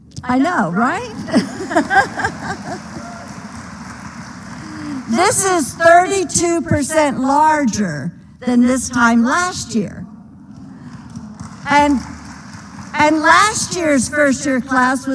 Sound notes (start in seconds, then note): 1.0 laughter; 1.1 applause; 10.8 applause